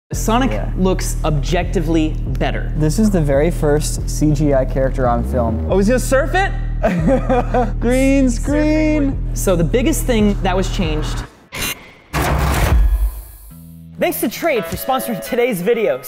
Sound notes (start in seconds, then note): 6.8 laughing; 12.8 intro music